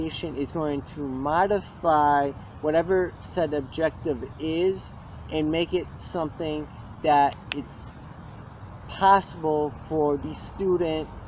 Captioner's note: cracks knuckles